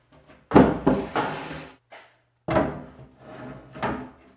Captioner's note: wood thudding